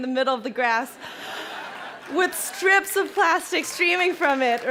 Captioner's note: crowd laughing and clapping